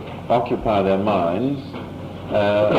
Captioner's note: none